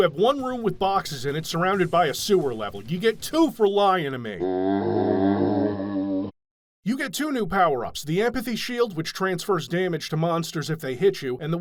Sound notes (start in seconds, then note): 4.4 zombie groan